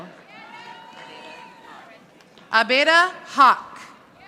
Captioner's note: audience applauding